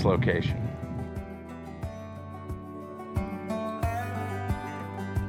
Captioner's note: gently chiming bells